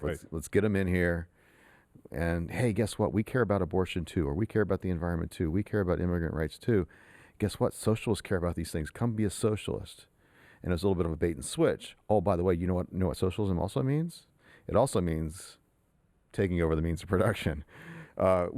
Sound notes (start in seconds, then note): none